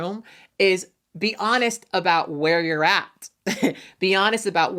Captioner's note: chuckles